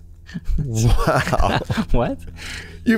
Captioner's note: laughter